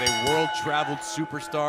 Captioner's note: bell ringing